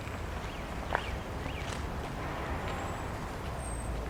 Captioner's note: city Noises